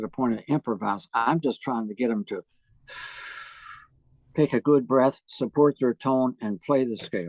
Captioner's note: takes deep breath